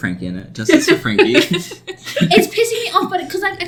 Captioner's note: laugh